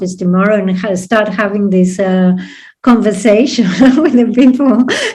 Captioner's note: laughs